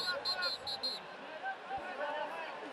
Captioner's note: whistle